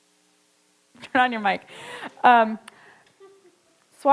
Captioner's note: chuckles